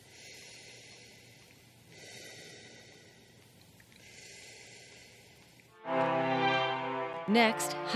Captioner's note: slow breathing